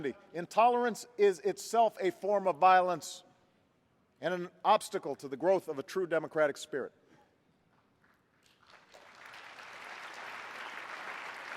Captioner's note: applause